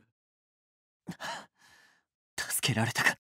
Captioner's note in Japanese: 溜息